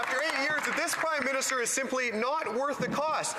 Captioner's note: some Applause